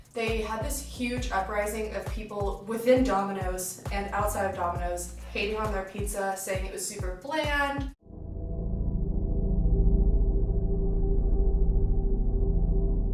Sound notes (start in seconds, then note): 8.0 tense sound effects